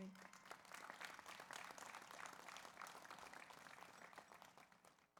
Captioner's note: audience applauds